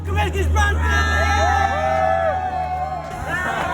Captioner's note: all cheering